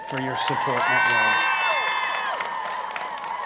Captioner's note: applause